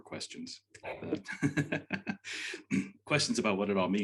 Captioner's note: laughing